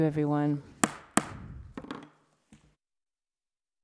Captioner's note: gavel thuds